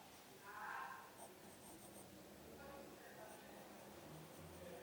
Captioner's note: pencil scratches